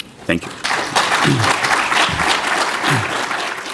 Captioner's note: applause